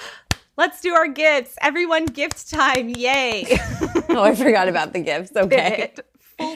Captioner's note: clapping